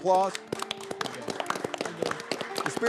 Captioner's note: all clapping